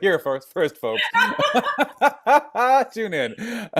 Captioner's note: laughing